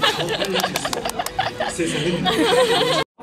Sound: seal clap

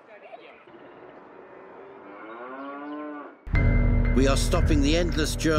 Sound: cow moos

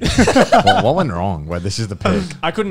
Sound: both laughs

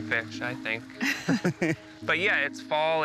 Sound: laughter

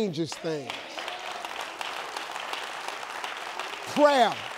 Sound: audience applauding

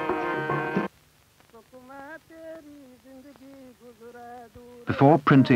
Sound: singing continues; chanting in the distance

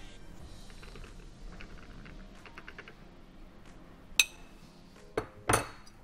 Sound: upbeat music; ice rattling; dish clanks

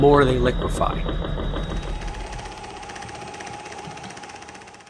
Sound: theragun humming

